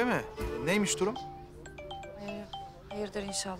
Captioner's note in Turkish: Telefon çalıyor